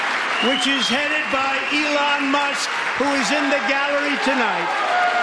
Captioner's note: applause